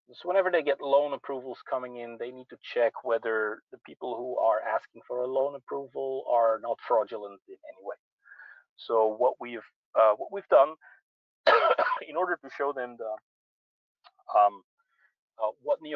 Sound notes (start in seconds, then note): 11.4 coughs